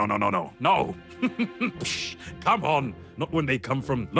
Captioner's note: Sherblock chuckles